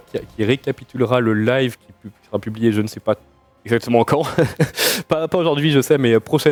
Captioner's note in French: rires